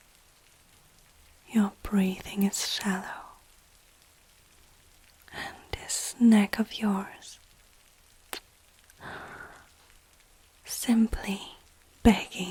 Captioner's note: kiss